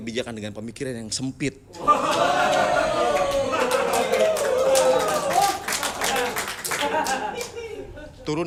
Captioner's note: applause